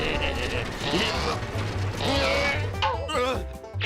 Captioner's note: grunting